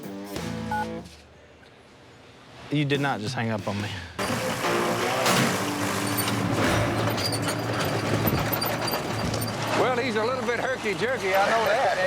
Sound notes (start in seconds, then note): 0.7 phone beeps; 4.2 whirring loudly